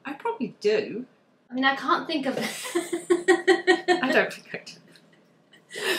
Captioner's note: laughs